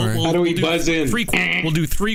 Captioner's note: buzzer sounding